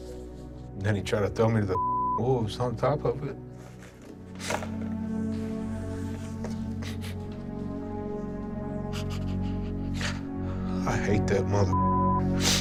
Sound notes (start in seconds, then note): 4.0 clatters; 6.2 sobs; 8.7 cries